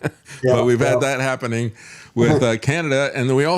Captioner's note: laughing